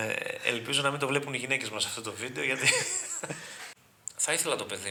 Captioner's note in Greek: γέλια